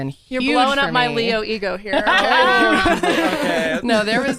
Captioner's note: everyone laughs